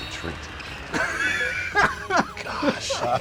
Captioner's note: laughter